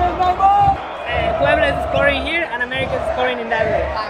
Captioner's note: stadium Chanting